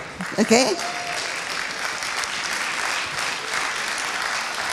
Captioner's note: applauding